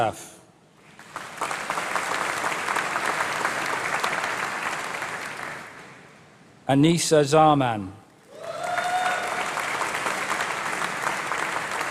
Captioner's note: applause